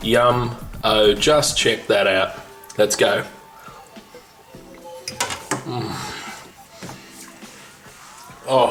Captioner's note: tasting sounds